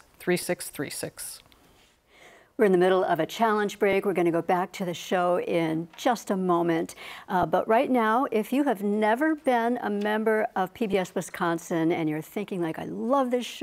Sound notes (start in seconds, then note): none